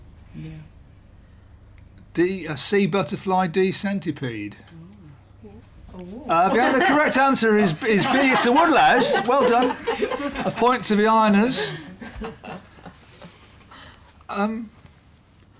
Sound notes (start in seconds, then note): 6.3 laughter